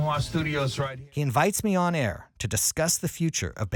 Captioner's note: voiceover